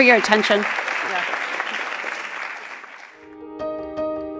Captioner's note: applause